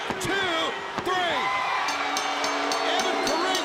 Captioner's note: bell ringing